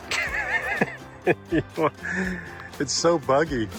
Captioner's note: laughs